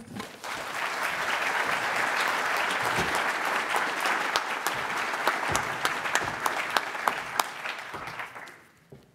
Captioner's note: audience applauds